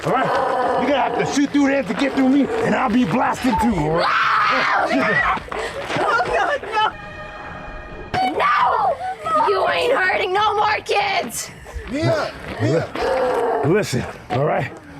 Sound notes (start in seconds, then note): 5.6 Mia screams like an animal